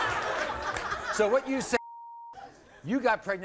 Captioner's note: beep